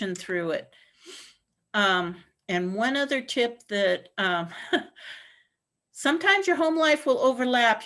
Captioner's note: laughter